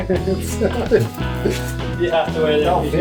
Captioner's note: laughing